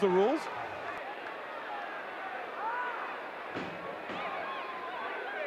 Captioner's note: audience cheering